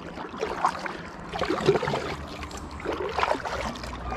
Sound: water lapping

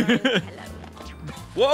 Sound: laughs

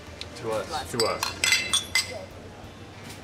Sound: glasses clinking

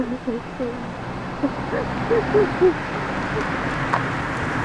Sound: Scarlet sobbing; motor engine roaring

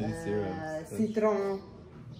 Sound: French

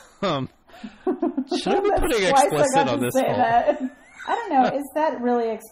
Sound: laugh

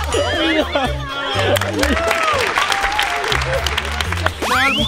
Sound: cheering; applauding

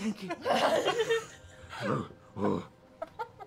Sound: laughing; grunting

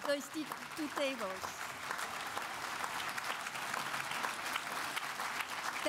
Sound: applause

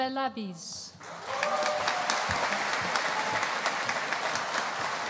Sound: audience applauding

